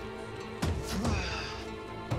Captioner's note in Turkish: Tükürme sesi